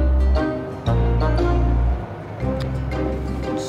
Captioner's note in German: Vorbeifahrender Bus